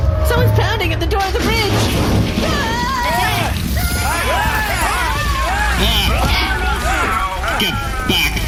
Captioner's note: K’hekk bang on the doors